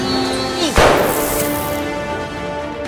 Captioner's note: groaning; gunshot